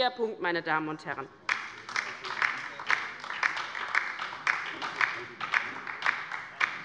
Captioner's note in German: Beifall bei der LINKEN